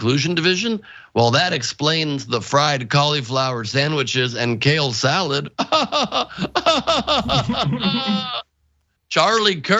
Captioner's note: laugh